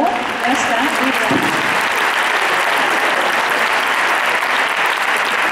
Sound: applause

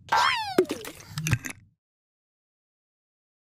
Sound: bottle closes

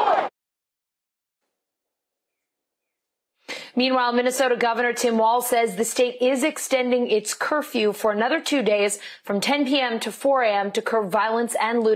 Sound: crowd chanting

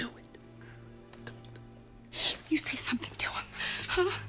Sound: <i> whispering</i>

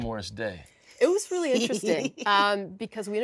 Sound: laughs

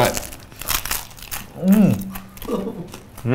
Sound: pizza crunches loudly

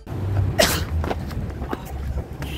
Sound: sneezes

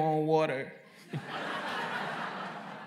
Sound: laughter

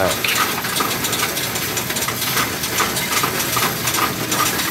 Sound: coins rattling

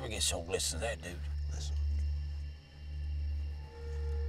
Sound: whispering; suspenseful music

